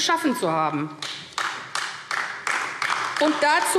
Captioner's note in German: Beifall AfD